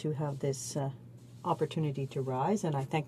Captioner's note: speaking French